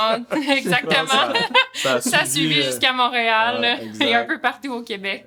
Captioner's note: laughs